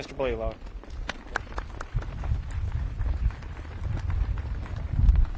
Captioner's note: audience claps